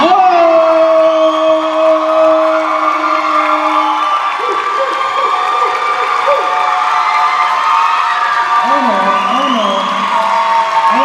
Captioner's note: cheers and applause